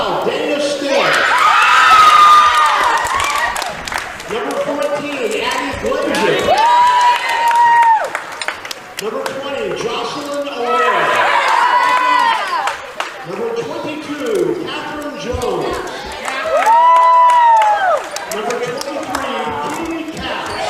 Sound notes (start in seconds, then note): 0.9 cheering; 6.1 cheering; 10.6 cheering; 16.1 cheering